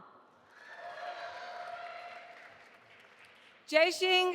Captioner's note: audience applauding